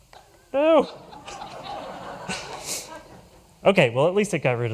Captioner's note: laughter